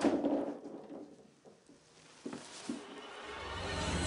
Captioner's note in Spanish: Ruido al rodar algo por el piso